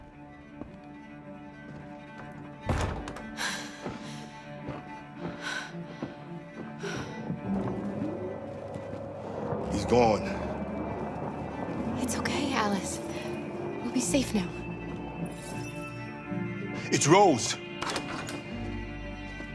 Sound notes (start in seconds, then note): 2.6 door shuts; 3.4 sigh of relief; 6.9 car drives away